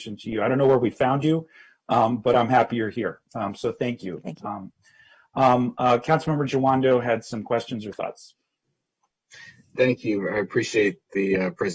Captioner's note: spanish